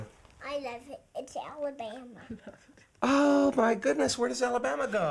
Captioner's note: giggles